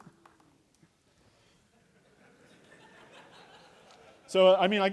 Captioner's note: laughter